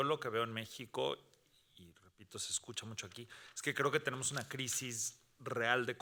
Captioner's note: speaking Spanish continues